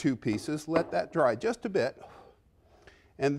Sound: blows

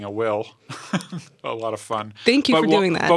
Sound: laughs

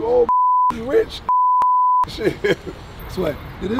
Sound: beeps; laughing

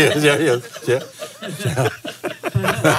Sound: laughs

